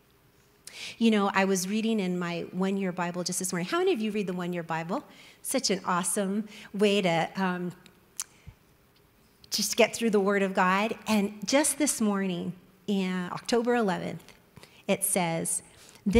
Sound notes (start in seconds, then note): none